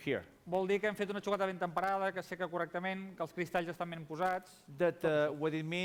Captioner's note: non-english speech